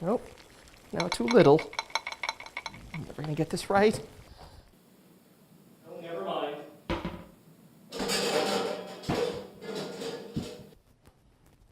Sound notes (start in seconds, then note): 7.9 pots and pans crash